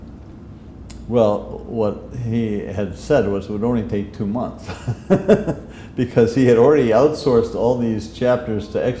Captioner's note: chuckle